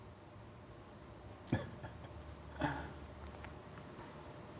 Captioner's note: laughs